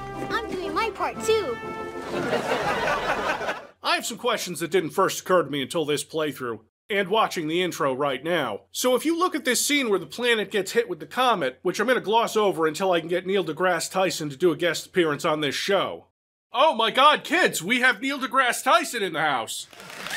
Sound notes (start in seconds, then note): 2.0 everybody laughs happily; 19.8 cheers and claps